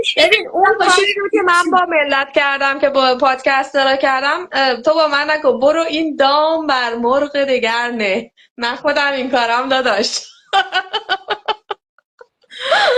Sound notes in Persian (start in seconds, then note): 10.3 خنده